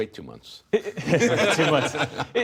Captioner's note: laughter